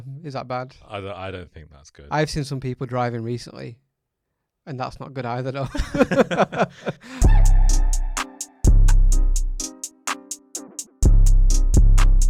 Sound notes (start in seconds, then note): 5.7 laughs; 7.0 rhythmic music